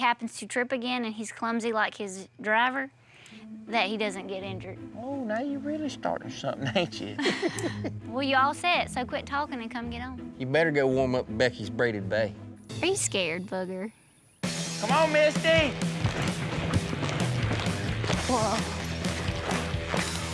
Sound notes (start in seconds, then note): 6.6 laughs; 16.9 fast hoof beats